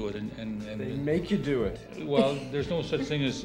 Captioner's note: laughter